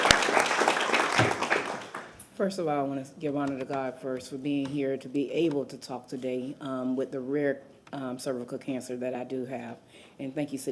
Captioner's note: applause